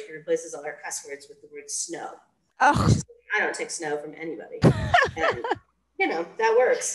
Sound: laughter

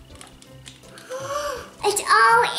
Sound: gasping

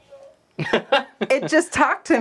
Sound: laughs

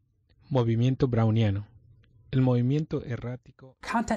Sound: non-English speech

